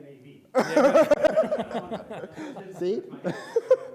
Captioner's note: laughter